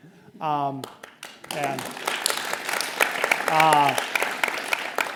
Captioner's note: audience applauds